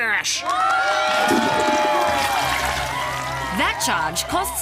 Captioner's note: cheering and applause